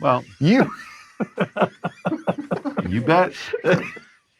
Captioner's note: group laughs